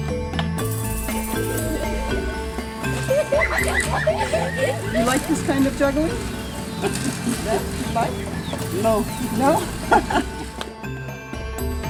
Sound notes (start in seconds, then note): 3.7 children laughing; 9.6 laughing